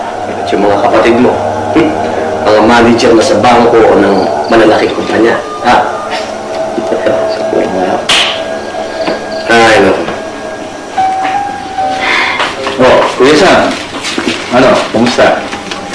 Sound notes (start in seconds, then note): 6.0 chuckles